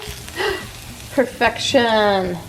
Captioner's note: gasps